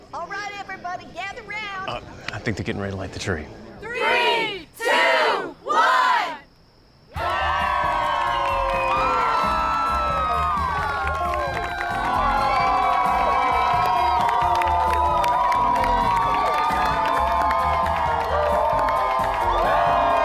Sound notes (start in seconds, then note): 7.1 crowd cheers, claps